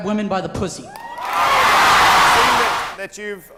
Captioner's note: audience cheering